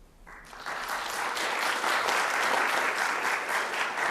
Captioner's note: audience applauding